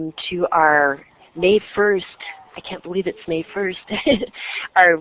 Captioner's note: chuckles